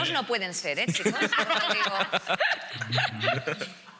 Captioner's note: laughing